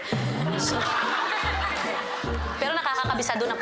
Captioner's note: audience laughs